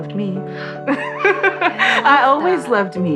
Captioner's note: gasp